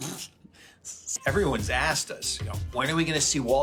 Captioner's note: laughs